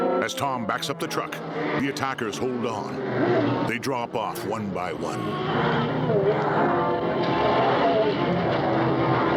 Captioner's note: engine revving